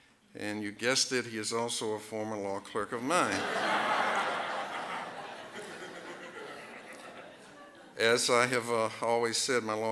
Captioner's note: audience laughing